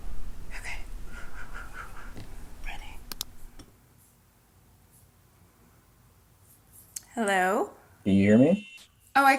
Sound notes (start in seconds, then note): 1.3 exhales audibly